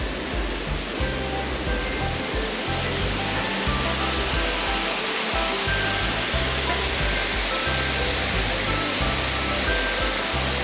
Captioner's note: water rushing